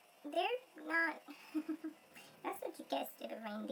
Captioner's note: laughs